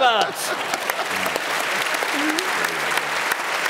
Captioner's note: applause; laughter